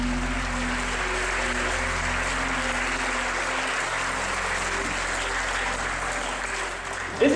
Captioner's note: audience applauding